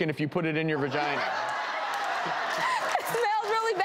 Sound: audience laughing

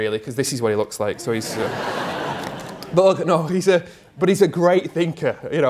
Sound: crowd: laughter

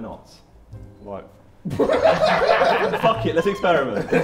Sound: Sidemen laugh

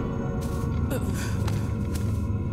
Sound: grunting

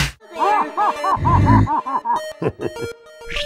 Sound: Pyro laughs

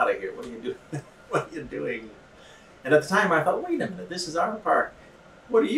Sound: laughs

